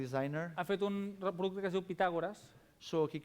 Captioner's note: non-english speech